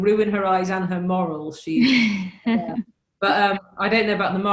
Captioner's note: laughs